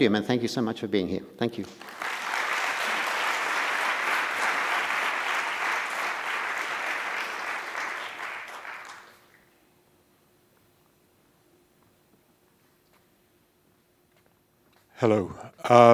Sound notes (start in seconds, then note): 1.7 audience applauding